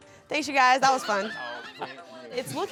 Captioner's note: laughs